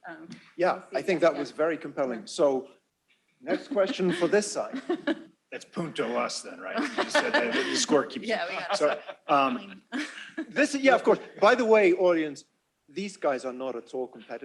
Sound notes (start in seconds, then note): 6.7 laughter